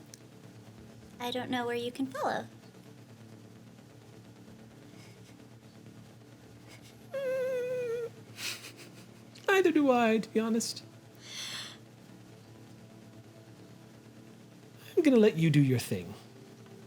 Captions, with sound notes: I don't know where you can follow. (whining) Neither do I, to be honest. I'm gonna let you do your thing.